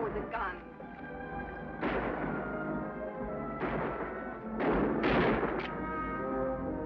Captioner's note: tense music; guns bang